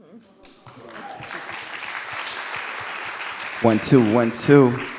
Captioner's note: audience cheering and clapping